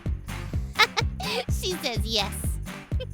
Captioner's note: laughs